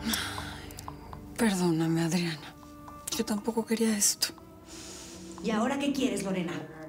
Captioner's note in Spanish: exhala